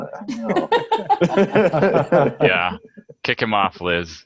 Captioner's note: laughing